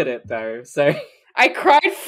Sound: laughs; laughing

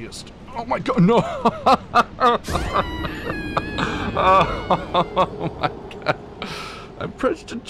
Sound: laughter

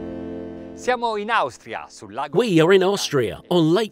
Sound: speaking in foreign language

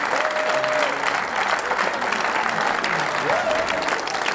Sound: applause

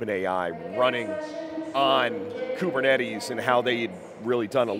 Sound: announcement blaring

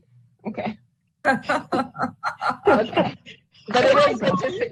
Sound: laughing

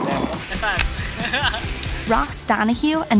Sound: laughing

